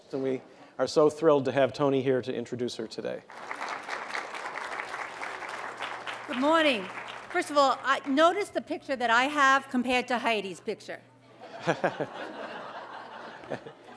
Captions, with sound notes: And we are so thrilled to have Toni here, to introduce her today. [APPLAUSE] >> Good morning! First of all, notice the picture that I have, compared to Heidi's picture.